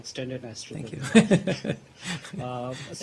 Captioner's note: laughter